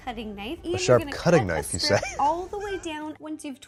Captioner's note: laughs